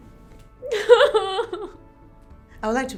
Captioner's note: cries